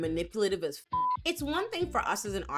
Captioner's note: beep